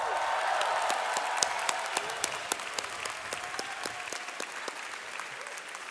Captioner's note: audience cheering and applauding